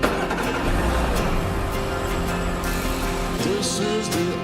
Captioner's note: engine Revving